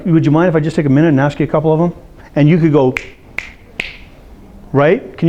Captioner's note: snap fingers